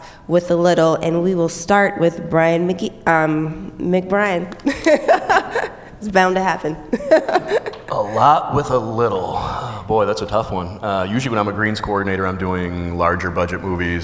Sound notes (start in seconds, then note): 6.9 laughs